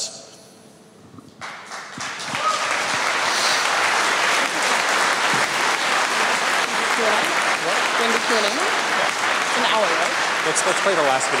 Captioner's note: applause